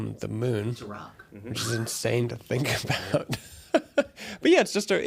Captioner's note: laughs